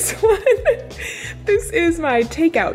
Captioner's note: giggling